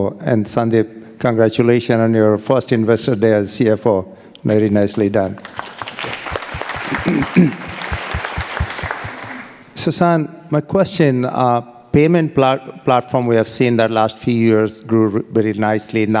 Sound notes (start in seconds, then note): 5.4 audience applauding